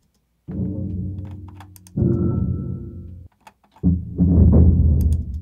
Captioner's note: big rattling sounds